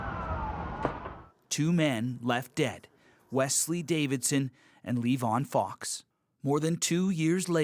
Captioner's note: shots